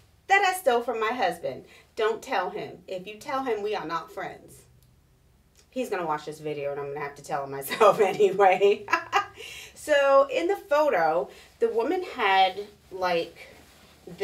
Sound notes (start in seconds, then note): 8.4 laughing